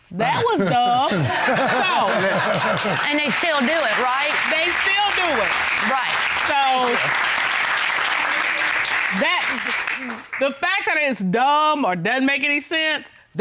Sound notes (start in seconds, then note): 0.2 audience laughing; 7.4 applause